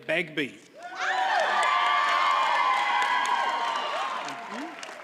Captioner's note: audience cheers and applauds